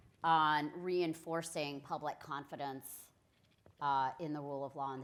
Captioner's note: none